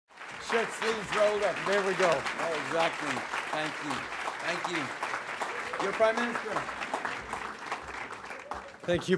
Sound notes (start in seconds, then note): 0.7 applause